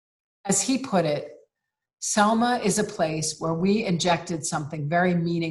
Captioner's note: none